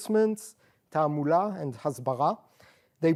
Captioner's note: non-english